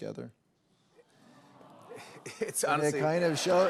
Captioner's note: audience "Awws"